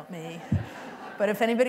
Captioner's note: laughter